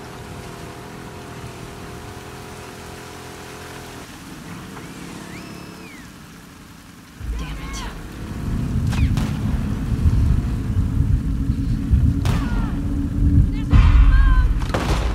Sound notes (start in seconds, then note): 5.2 urgent whistles!!!